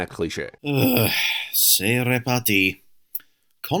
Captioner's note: sigh